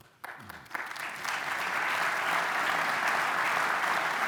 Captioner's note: applause